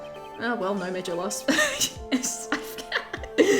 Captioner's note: laughs